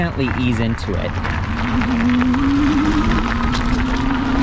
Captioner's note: motor revving